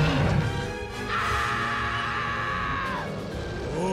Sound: roaring; screaming

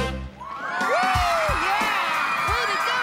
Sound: cheering

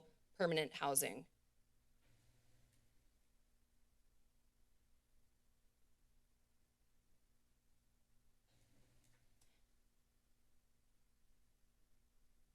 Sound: silence

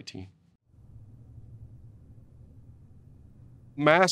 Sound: silence

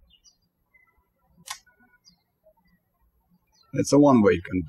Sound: birds chirping

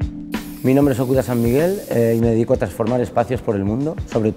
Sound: soft music; speaking Spanish

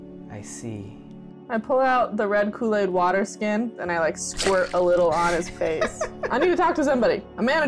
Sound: laughter

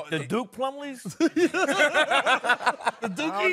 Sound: laughing

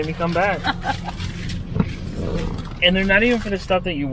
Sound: laughs

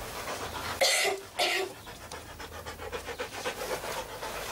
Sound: Sally coughing; dog breathing heavy

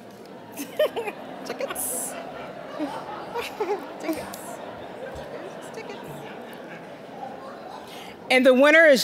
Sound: general chatter; audience chuckling

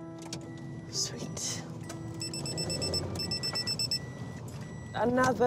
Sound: car dashboard beeps

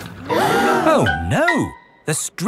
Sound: all gasp

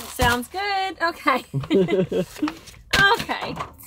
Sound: laughs

